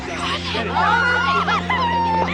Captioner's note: squealing